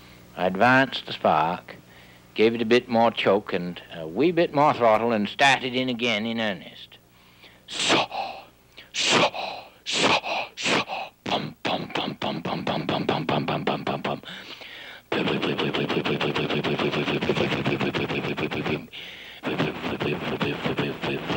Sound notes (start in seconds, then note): 8.8 imitates engine